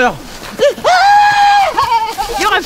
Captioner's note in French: cri de peur